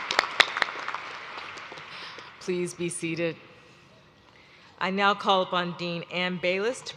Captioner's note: cheers; applause